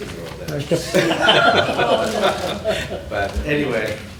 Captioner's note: laughter